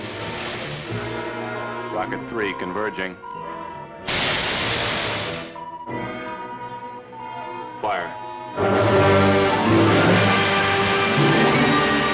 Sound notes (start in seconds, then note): 4.0 rockets hissing; 8.2 dramatic music